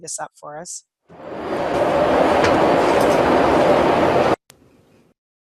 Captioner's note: bus engine roars